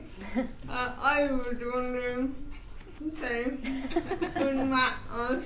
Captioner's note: attendees laughing